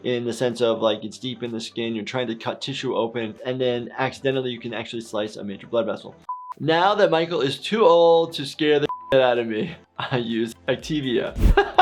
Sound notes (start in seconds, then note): 9.0 beep